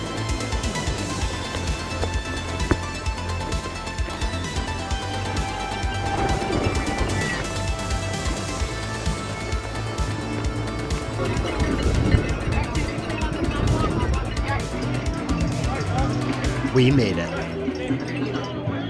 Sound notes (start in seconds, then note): 5.1 cheering; 11.0 crowd noise, cowbells